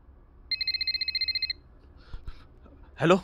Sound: phone ringing

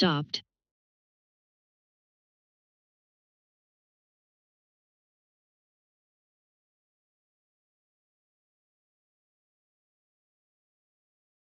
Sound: silence

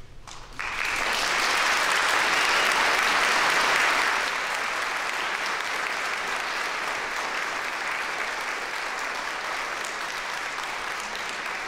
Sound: applause

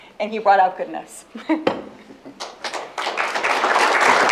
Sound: applause

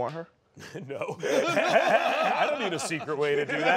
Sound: laughter

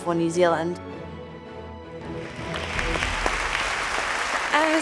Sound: audience clapping

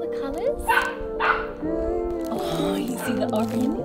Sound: dog barks

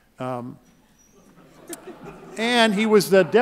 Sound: laughing

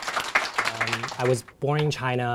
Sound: applause

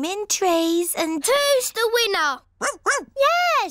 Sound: barks

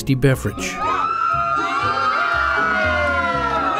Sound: cheering

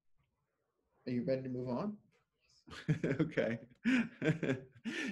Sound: speaking French

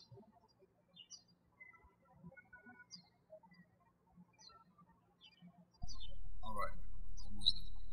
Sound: birds chirping

